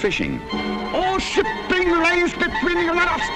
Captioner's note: voiceover